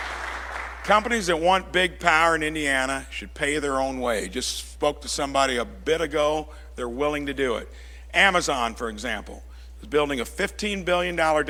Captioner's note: applause